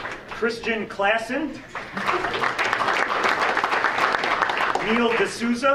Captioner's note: audience applauding